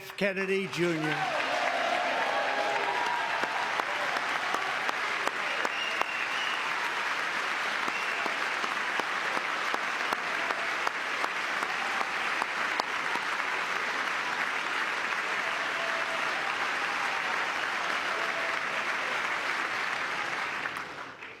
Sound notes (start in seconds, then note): 4.4 cheering; 6.0 applause; 17.2 applause